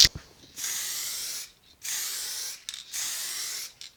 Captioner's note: spraying